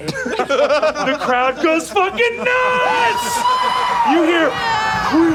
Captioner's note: players cheering